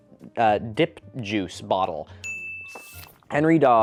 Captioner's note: ding